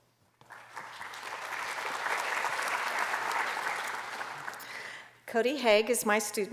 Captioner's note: applause